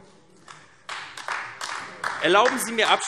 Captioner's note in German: Beifall AfD